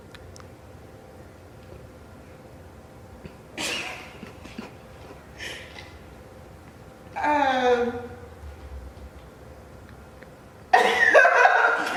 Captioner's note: laughs in total disbelief